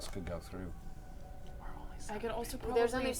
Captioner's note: whispering